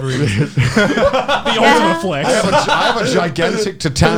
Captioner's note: laughs